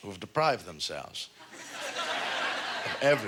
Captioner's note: audience laughter